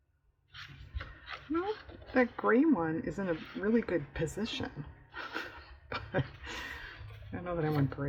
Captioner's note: laughs